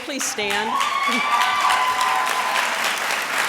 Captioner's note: applause